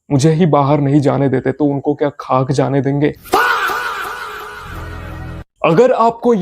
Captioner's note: screaming